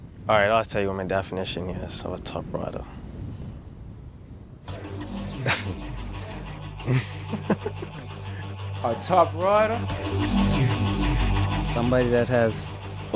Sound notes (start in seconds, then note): 4.7 upbeat music; 4.8 chuckles; 6.8 giggles